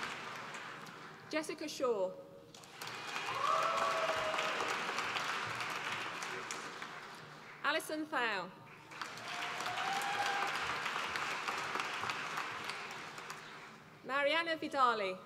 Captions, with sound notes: Jessica Shaw, (APPLAUSE) Alison Thow, (APPLAUSE) Marianna Vidali,